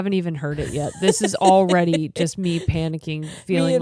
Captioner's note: laughing